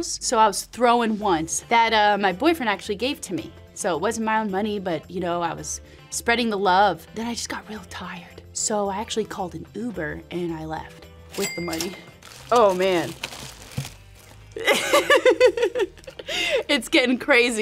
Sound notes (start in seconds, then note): 11.4 register chiming; 14.6 laughing